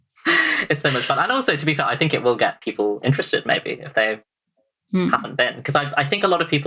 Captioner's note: laughs